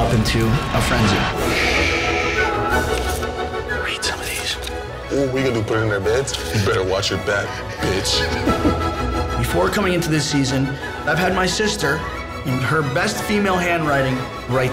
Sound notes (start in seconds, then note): 0.0 fast music; 7.0 giggles